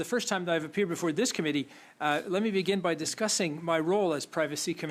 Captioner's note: speaking French